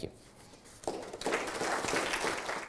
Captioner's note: audience applauding